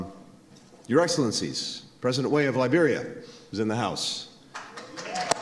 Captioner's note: applause